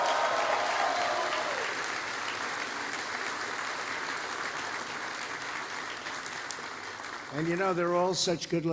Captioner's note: applause